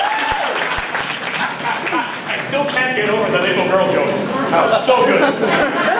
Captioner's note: laughs